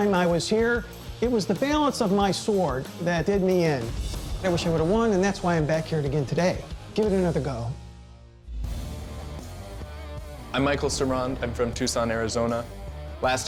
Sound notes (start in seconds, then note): none